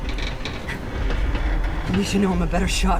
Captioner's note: car creaking